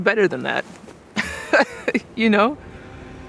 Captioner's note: laughing